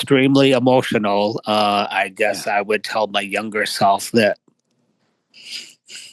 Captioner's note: emotionally choked up